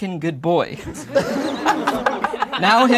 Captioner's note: laughing